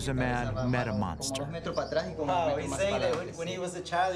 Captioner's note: speaking foreign language